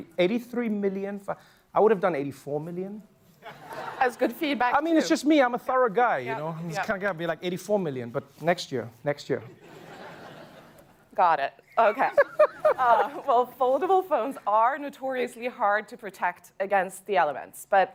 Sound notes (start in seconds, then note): 9.6 laughter; 11.8 laughs